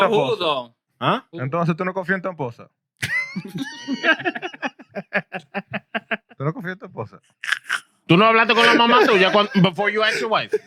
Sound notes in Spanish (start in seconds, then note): 2.0 Hablando en idioma extranjero; 3.0 Risas